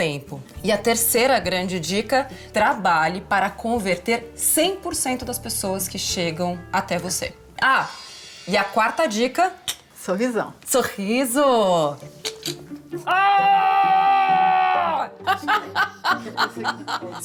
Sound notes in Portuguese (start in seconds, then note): 13.0 grita; 15.2 risos